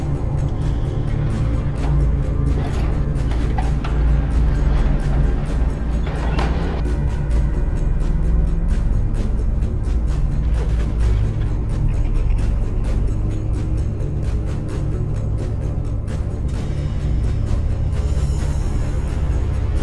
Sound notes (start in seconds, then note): 5.9 door slamming; 7.1 dramatic music continues